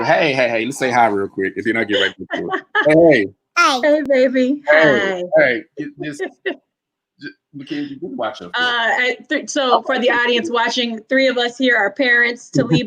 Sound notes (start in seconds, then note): 1.8 murmurs